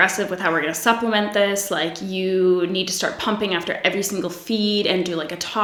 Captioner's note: none